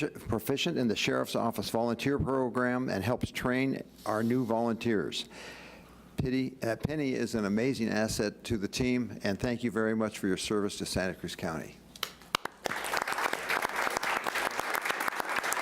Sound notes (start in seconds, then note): 12.1 applauding